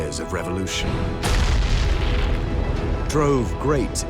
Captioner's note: explosion